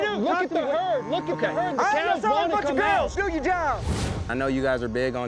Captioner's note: all arguing